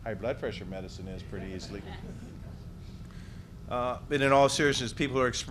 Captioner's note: background laughter